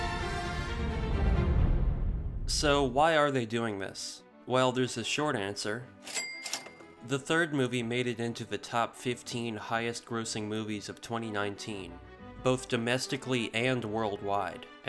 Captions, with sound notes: So why are they doing this? Well there's a short answer... (cha-ching). The third movie made it into the top 15 highest grossing movies of 2019, both domestically and worldwide.